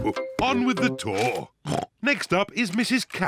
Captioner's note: oinks